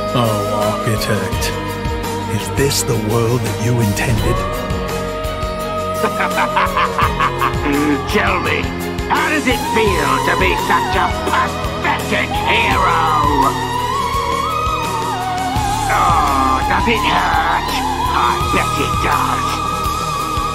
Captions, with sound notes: Oh, architect... Is this the world that you intended? [Evil Laugh] Tell me, how does it feel to be such a pathetic hero. Aww, does it hurt? I bet it does.